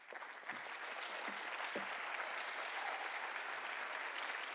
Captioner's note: audience applauding